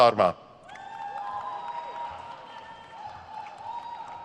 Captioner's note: crowd cheers